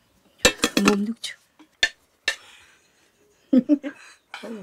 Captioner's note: speaking in foreign language